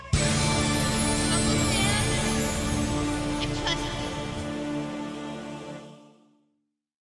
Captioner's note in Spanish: more susurros al estilo de gravity falls